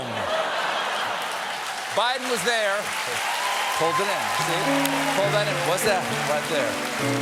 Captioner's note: laughter; applause; piano riff